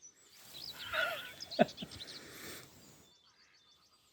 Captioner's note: starts laughing at his own joke